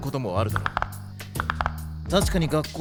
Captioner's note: knuckles cracking